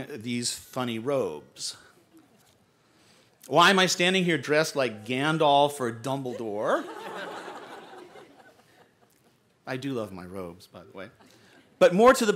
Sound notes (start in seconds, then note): 6.3 laughter